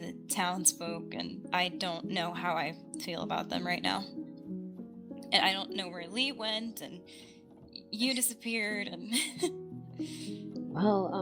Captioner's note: laughs